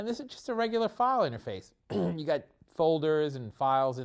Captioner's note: cough